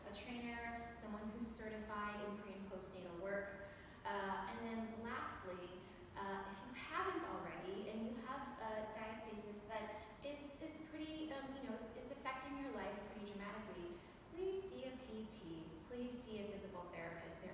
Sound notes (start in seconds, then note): none